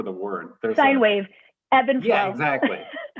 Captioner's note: laughter